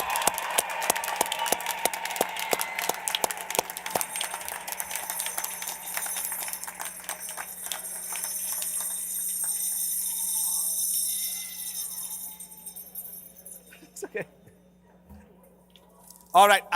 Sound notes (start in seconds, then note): 3.6 applause